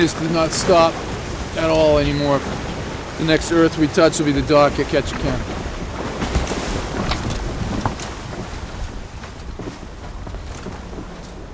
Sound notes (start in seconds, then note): 6.8 ropes knocking